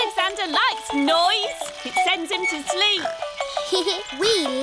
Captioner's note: giggles